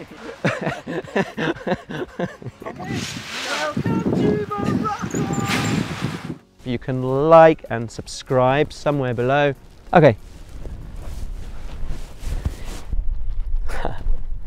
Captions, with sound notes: [laughter] hey! welcome to Morocco you can like and subscribe somewhere below OK [laughs]